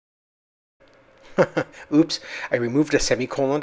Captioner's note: chuckles